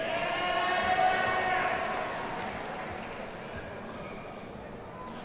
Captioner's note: audience cheers and applauds